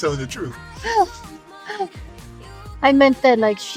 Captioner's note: laughing